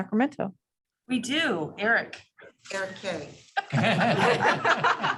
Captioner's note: laughter